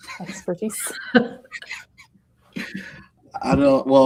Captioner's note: laughing